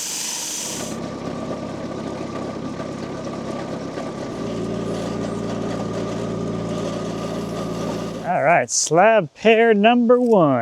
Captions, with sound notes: (engine humming) All right, slab pair number one.